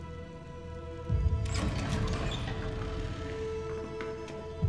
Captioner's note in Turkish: Kapı açılma sesi